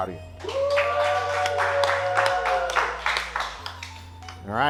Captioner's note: contestants applause